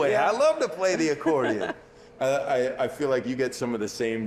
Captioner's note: laughing